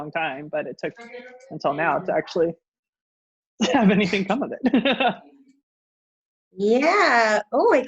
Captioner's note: laughs